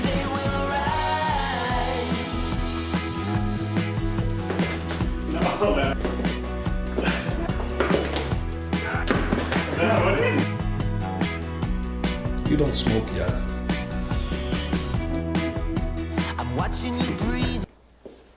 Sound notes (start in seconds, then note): 6.8 laughing; 15.0 upbeat music